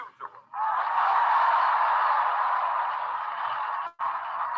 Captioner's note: audience applauding